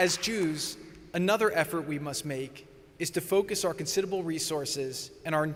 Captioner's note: applause